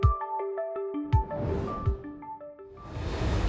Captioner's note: light upbeat music; flame swooshes